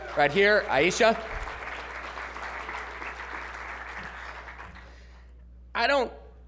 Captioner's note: applause